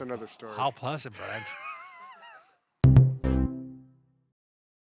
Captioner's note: both laughs